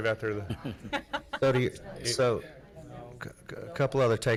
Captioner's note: laughing